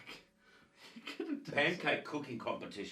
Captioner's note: chuckles